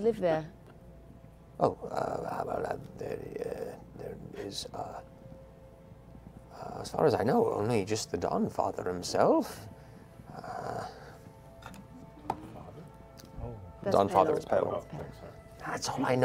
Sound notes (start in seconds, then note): none